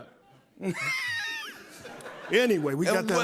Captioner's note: laughs